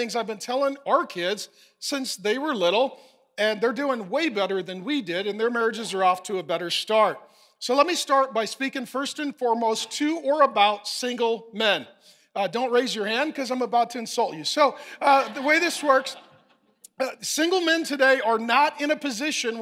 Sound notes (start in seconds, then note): 14.8 congregation laughing